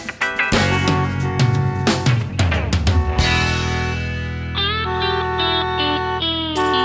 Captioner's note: car horn honking